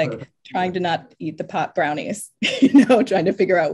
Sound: laughs

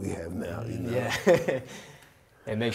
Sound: laughs

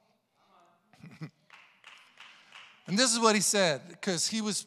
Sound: congregation applauding

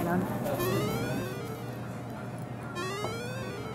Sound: cell phone rings

